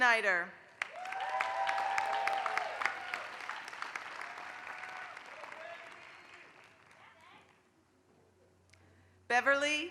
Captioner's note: applause